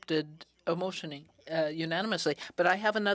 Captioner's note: speaking in french